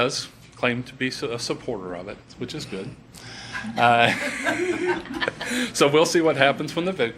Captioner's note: laughs